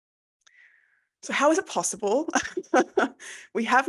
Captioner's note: laughs